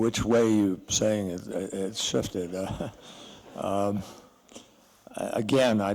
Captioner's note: laughter